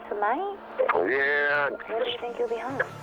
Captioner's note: on phone